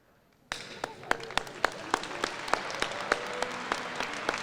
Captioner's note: applause